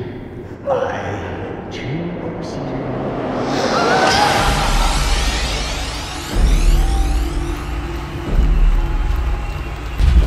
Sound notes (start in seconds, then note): 6.0 loud crowd cheering